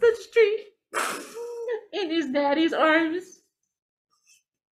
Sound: sniffs

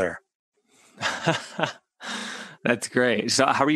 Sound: laughs

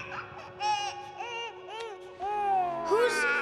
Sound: crying; cooing

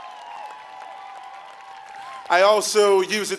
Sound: applause

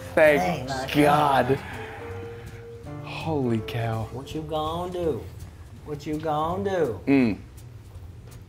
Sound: laugh

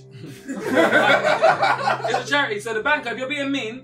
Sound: all laughing

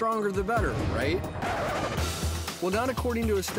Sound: record scratch

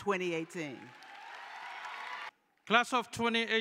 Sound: cheering

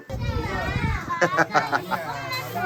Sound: laughing

